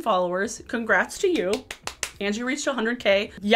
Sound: claps

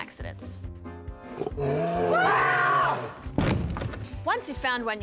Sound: bear roar

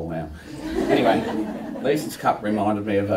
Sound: laughter

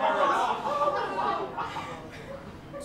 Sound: laughter

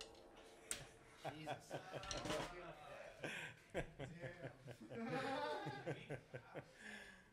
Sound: chuckles

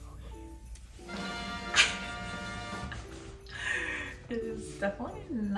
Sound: upbeat music; laughs

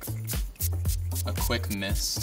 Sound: mellow dance music; spritzing

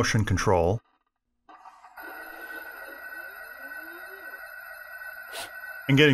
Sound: humming

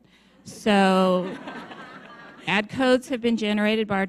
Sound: audience laughs

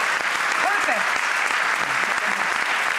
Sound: audience clapping

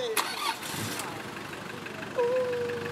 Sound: car engine revs

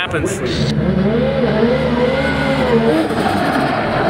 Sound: engine revving

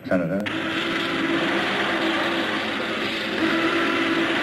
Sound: tanks whirring

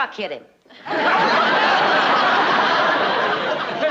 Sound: laughter

